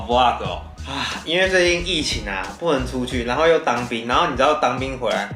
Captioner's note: sigh